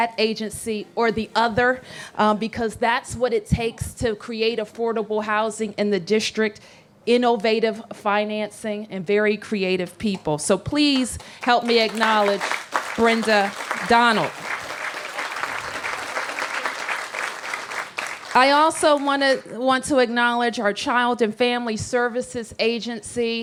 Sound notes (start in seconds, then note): 16.0 applause